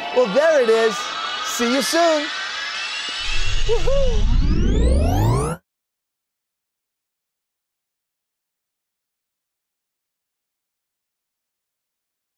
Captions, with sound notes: Oh, there it is! See you soon! Woo-hoo! [Whirring sound]